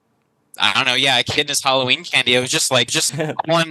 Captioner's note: laughs